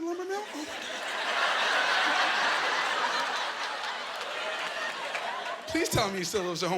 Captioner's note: laughing